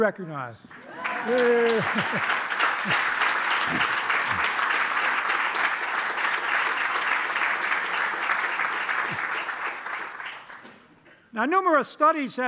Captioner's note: applause